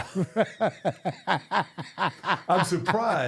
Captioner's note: laughing